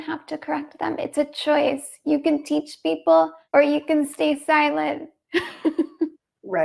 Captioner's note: laughs